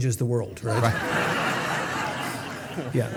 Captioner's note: audience laughing